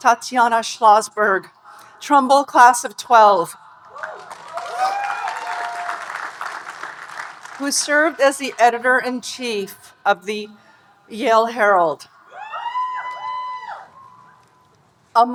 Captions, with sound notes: Tatiana Schlossberg, Trumbull class of 12, (audience cheering and applauding) who served as the Editor-in-Chief of "The Yale Herald." (audience cheering and applauding)